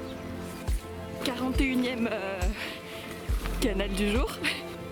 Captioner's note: laughs